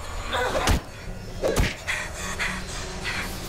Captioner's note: intense music; bat whacking; Lyne panting